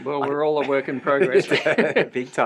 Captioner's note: laughter